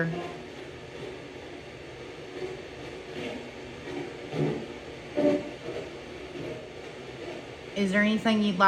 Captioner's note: light machine noise